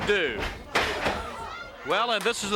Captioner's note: body thudding